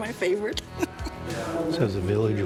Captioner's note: laughs